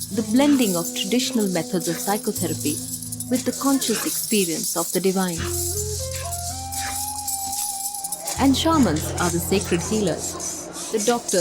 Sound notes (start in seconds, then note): 5.3 gentle music; 5.6 iron chains clanking